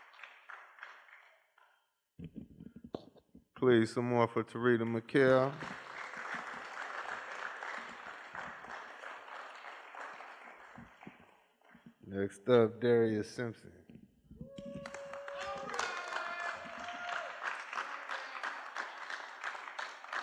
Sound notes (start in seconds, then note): 5.2 applause; 16.7 applause